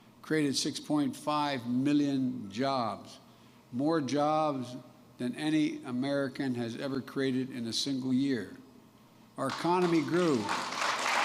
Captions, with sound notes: created 6.5 million jobs -- more jobs than any American has ever created in a single year. (Applause.) Our economy grew --